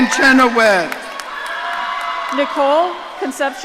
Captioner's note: audience cheering